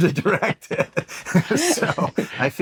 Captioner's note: both laugh